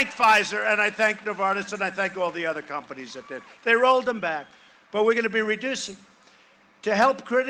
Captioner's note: cheering and applause